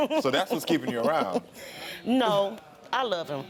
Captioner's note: laughs